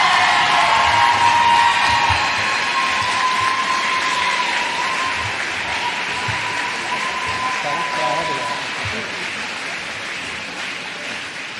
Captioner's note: applause